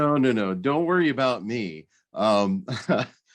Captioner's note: laughs